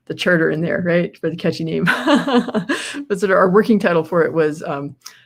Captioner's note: laughs